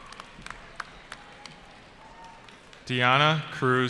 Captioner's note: cheering